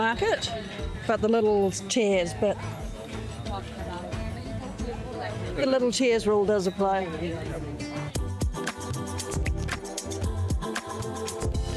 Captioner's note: people chatting